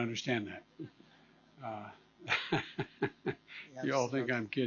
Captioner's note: laughter